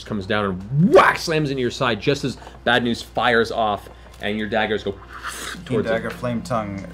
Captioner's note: dagger sounds